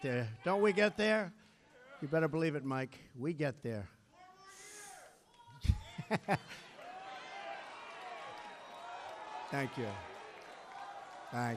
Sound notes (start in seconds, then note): 3.9 laughter